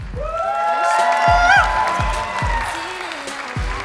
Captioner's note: applause